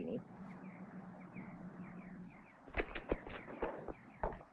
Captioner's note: birds chirping